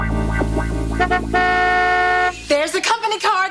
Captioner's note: car horn honks